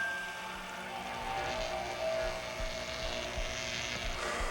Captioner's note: electric zap